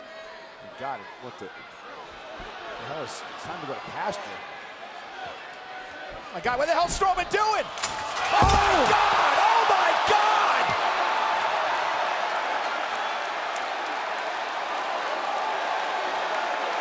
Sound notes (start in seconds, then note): 10.8 crowd cheers